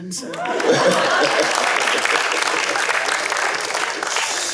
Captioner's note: cheering and applause